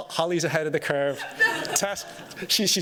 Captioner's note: laughter